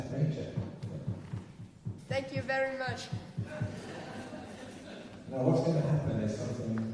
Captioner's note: laughter